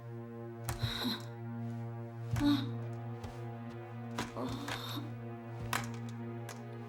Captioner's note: scary music; Freddie struggling